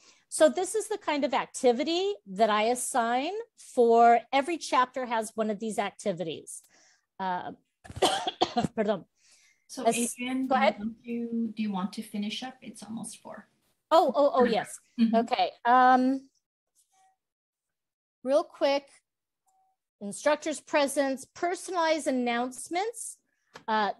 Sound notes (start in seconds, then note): 8.0 coughs, Spanish